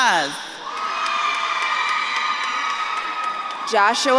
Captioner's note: audience claps and cheers